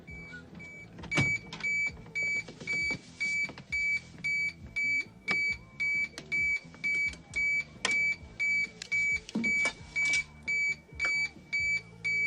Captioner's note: very loud beeper noise